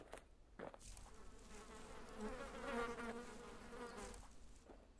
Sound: more space fly noises

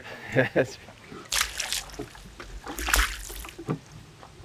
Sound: water sloshing

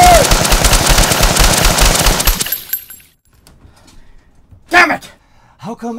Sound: machine gun fire

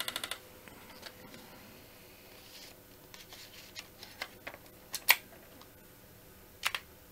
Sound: keyboard clicking

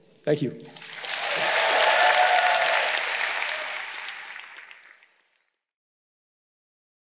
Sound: graduates applauding; graduates cheering

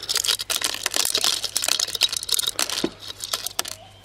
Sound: tinkling

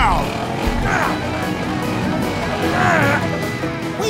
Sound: grunting

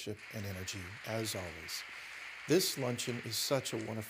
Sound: applause

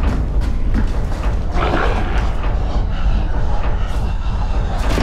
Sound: approaching creature sounds

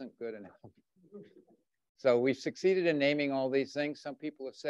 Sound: chuckles

